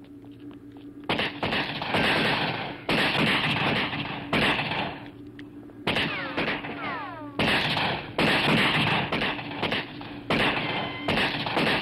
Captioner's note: gun shots